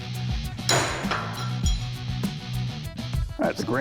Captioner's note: metal clatters